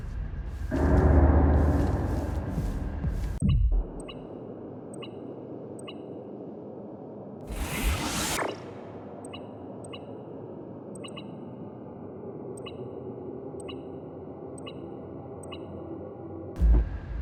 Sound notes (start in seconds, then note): 0.5 suspenseful music; 4.8 beeping; 7.9 suspenseful music